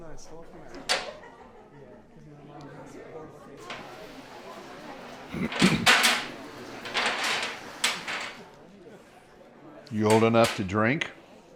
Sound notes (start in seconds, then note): 5.3 wood clattering